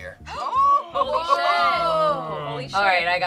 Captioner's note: group awes and cheers